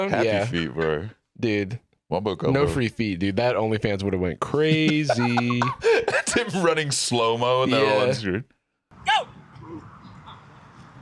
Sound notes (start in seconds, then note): 4.7 laughs